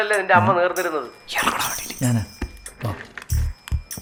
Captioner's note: whispers